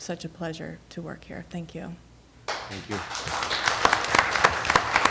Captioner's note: applause